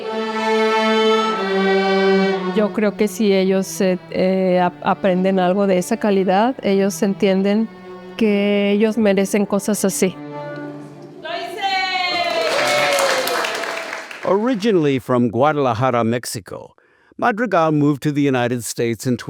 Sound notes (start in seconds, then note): 12.1 applause